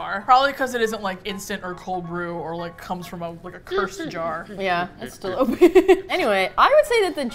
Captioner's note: laughs